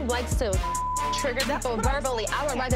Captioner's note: beep